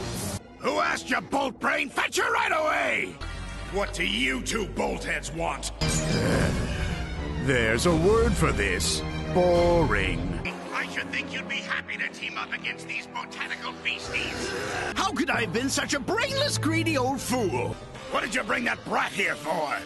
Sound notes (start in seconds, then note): 5.8 groan